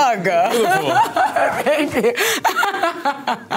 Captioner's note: laughs